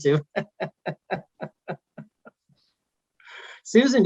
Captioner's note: laughing